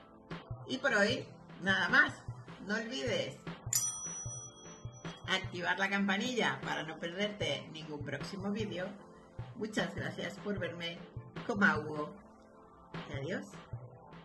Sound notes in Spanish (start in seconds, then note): 3.7 sonido: riiinnngggg